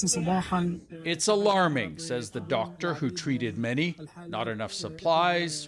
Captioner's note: speaking alternate language